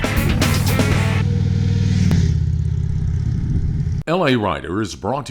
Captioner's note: motorcycle engine revving